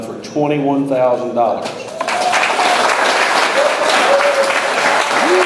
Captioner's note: audience applauds